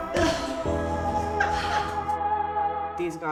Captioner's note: laughing